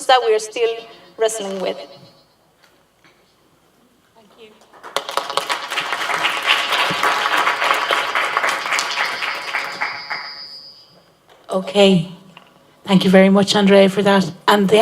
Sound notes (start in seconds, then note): 4.3 applause